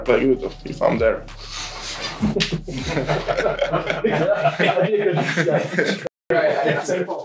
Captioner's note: laughs